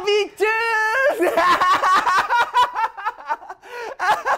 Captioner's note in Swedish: ahahahhahhaaha